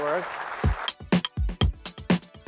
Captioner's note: applause